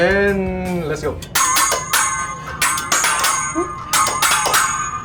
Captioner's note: metal clanking